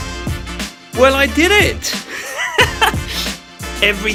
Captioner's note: laughs